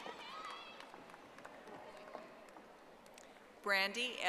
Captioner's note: audience applauding